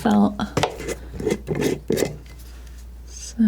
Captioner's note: scratching